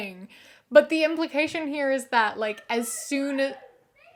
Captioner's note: loud yelling from outside